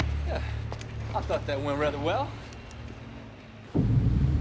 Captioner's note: sighs